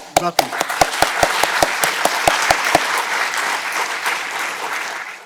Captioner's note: audience clapping